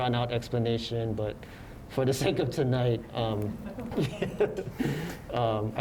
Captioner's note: laughs